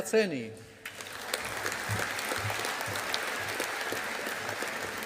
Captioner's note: audience applauding